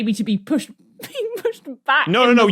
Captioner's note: cracks up